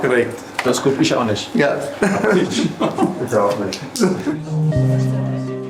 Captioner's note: laughs